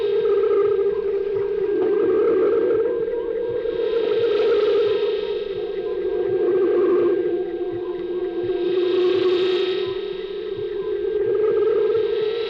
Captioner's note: high pitched whirring